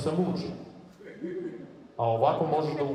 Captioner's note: audience laughs